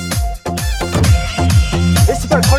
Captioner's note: door thuds